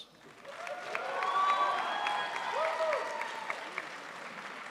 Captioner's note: crowd applauds